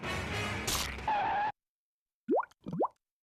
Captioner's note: skidding